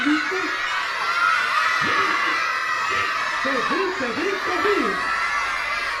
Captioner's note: children screaming - “no”